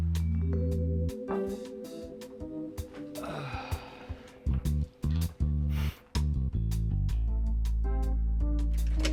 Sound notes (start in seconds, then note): 2.9 pleasant groovy music; 3.1 Jewels sighs